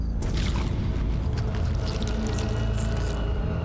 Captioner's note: squishing